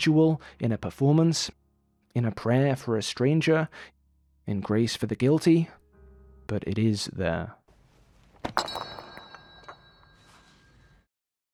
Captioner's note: clank